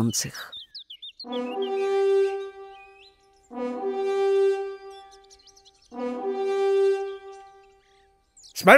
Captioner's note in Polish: Trzykrotne dmięcie w róg